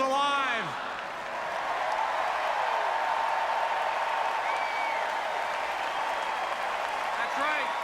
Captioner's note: applause